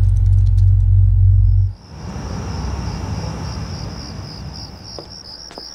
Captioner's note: keyboard clicking; light dramatic music; crickets chirping